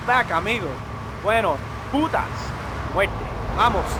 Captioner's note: speaking spanish